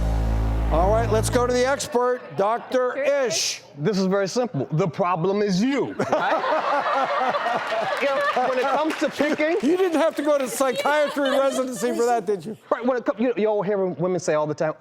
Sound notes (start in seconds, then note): 6.0 laughing; 7.2 applauding